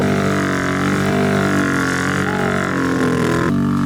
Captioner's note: engine revving